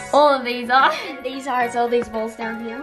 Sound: laughs

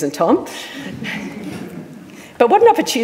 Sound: audience laughing

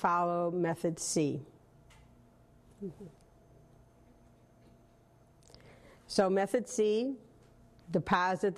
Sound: pause

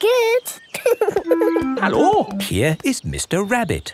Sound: laughing

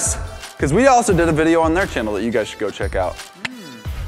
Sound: clicks tongue

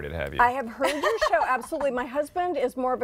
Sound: laughter

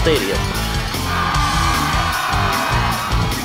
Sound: fans cheering

